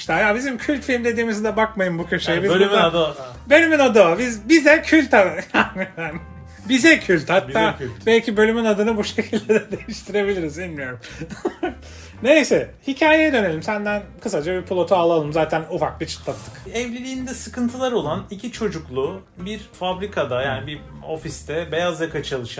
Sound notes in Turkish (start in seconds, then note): 11.0 kahkaha